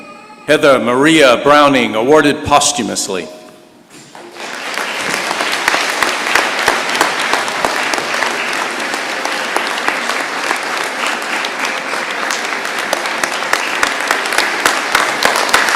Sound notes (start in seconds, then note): 4.1 applause and standing ovation